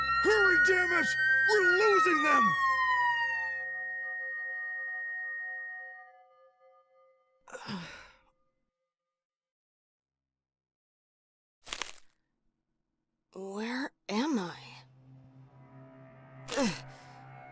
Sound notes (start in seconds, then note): 3.1 sirens fade to ear ringing